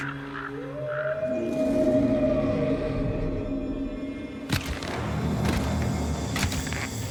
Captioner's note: birds squawking